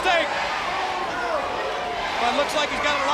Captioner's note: crowd cheering